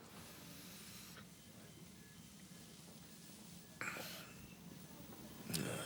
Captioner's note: John breathing softly